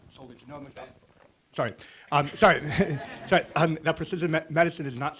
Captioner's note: audience laughs